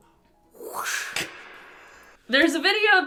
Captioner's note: whoosh